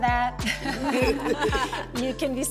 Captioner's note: laughing